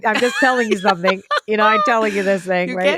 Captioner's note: laughter